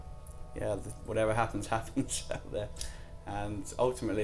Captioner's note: laughs